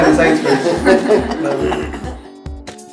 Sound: laughter

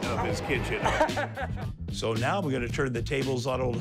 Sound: man laughs

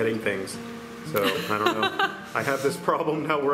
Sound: laughter

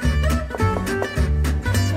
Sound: knock knock knock

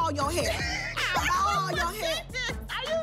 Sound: laughing

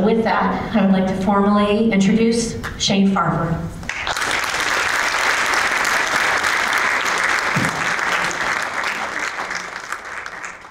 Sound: applause; applause, Cheering

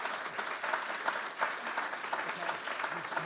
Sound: applause

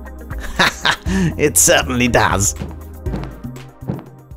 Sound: laughing

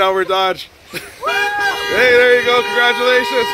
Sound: honking

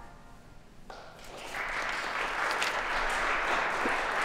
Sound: applause

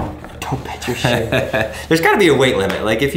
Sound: laughs

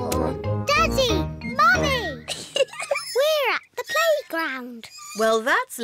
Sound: laughs

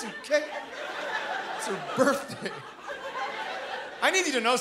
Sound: chuckling

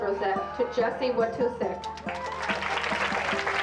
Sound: applause

